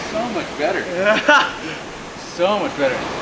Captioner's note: laughs